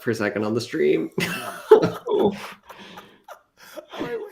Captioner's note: laughter